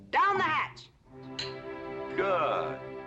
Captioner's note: glasses clinking